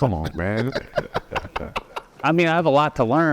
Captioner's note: everyone laughing